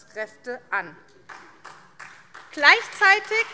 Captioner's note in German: Beifall SPD